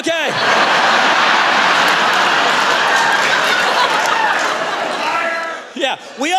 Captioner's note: laughter